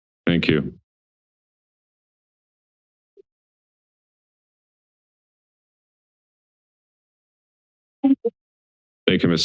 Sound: silence

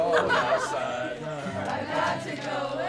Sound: laughter

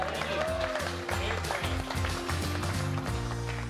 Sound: all applauding

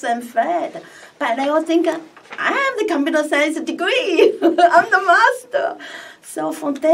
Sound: laughs

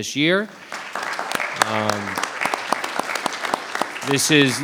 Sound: applause

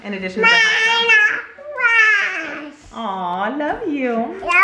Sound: shouting

